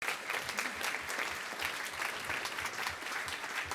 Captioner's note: applause